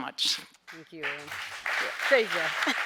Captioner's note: audience applauding